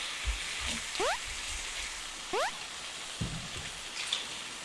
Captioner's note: sizzling